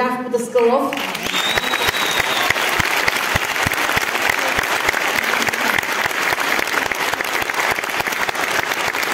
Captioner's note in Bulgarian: аплодисменти